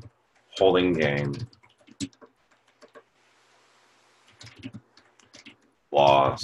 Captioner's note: typing Sounds